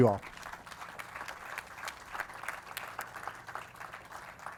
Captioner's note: audience claps